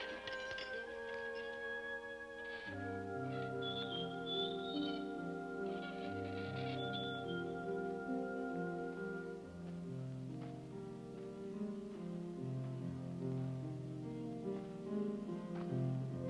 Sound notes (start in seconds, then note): 3.4 hinge squeaking; 5.2 soft music